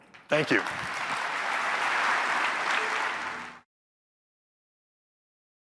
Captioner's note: applause